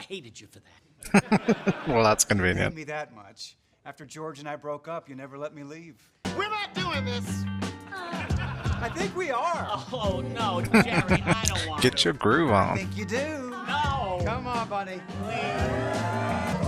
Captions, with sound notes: [Chuckling] Well, that's convenient. [Chuckling] Get your groove on.